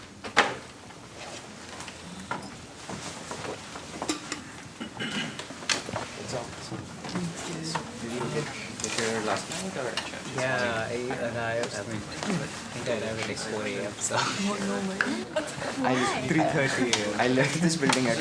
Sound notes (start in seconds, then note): 10.6 background chatter